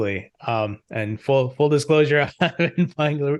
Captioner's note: chuckles